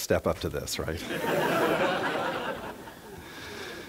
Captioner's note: laughter